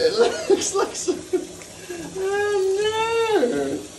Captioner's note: laughs